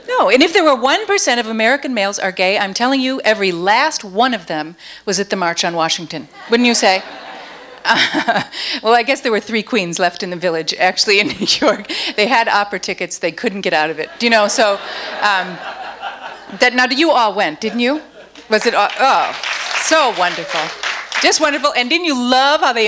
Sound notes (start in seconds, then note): 6.4 audience laughs; 14.0 audience laughs; 18.3 audience applauds